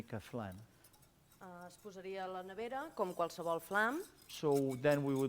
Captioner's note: non-english speech